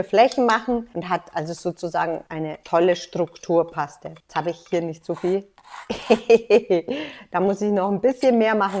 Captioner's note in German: lacht